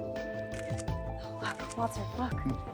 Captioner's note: camera snapping